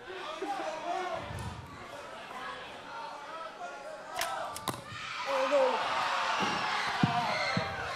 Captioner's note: crowd chatter